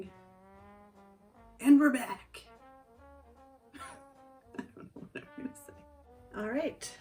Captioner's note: laughs